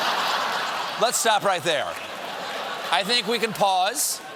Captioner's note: laughter